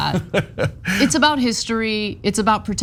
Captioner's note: laugh